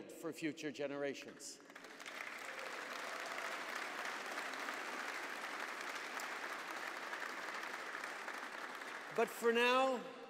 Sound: applause

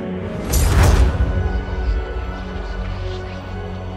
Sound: wind whistling

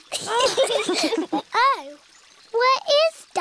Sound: all laugh

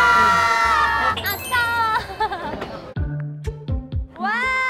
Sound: bell chiming

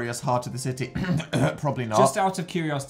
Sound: clears throat

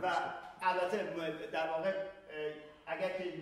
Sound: speaking in farsi

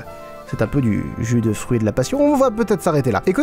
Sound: hum hum

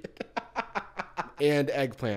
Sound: laughs

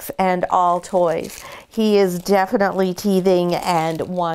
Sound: dog toy crinkling

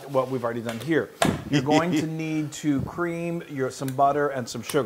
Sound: laugh

